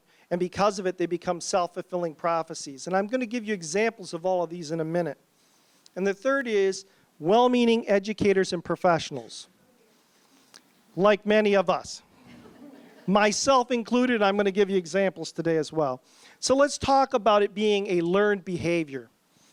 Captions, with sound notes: and because of it they become self fulfilling prophecies. And I'm gonna give you examples of all of these in a minute. And the third is well meaning educators and professionals. Like many of us. [polite laughter] Myself included, I'm gonna give you examples today as well. So let's talk about it being a learned behavior